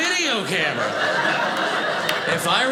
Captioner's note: audience laughing